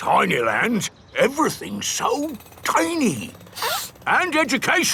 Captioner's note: sniffs